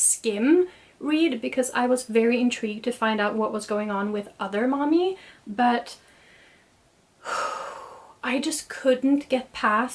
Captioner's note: sighs